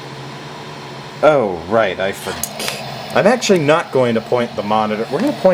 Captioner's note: weird click